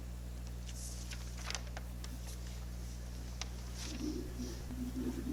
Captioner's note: paper rustling